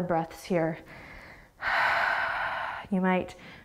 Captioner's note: exhaling